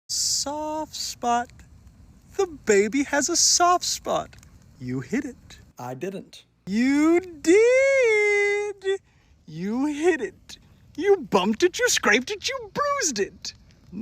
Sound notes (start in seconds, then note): 6.7 singsongy in a creepy way like he’s happy you got his riddle wrong